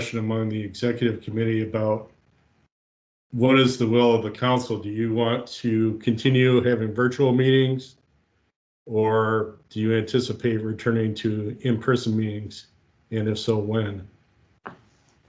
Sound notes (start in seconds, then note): none